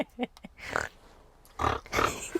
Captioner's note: laughs; snorts